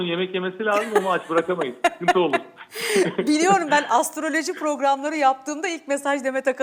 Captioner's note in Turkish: kahkaha